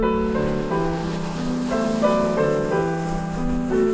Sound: waves crashing

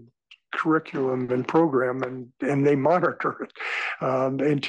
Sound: laugh

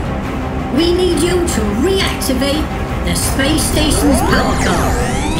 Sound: futuristic HUD display noise

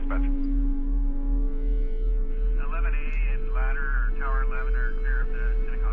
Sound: indistinct conversation

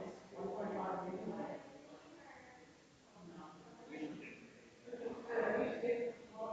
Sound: people chattering distantly continues

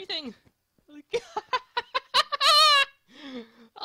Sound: laughing

